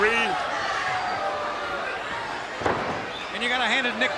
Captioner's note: crowd cheering